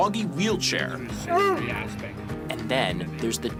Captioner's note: dog barks